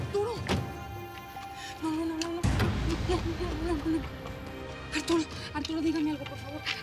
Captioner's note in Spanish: sonido al cerrar la puerta